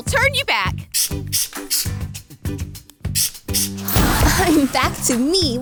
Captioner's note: potion spraying